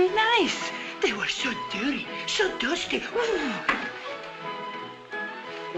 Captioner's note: elena blows